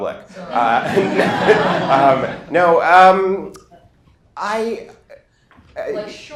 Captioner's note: laughter